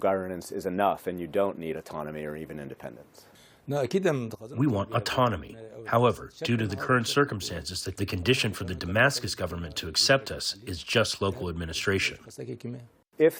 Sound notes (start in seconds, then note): 5.0 through translator